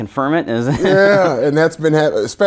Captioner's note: laughing